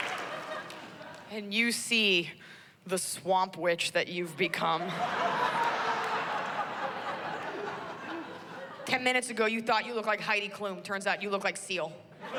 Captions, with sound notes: AND YOU SEE THE SWAMP WITCH THAT YOU'VE BECOME. [laughter] TEN MINUTES AGO, YOU THOUGHT YOU LOOKED LIKE HEIDI KLUM. IT TURNS OUT YOU LOOK LIKE SEAL.